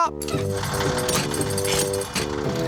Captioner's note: whirring